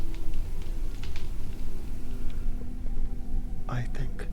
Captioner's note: branches crack